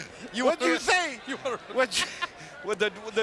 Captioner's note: commentators laughing